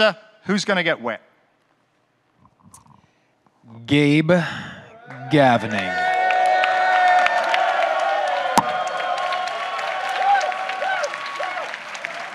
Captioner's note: clapping, cheering